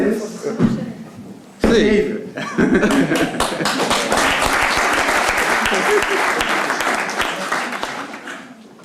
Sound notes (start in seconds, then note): 2.8 applause